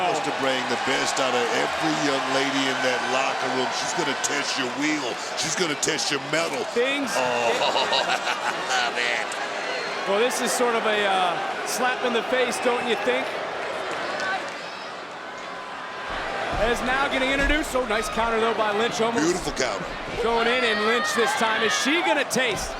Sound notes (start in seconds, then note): 7.2 laugh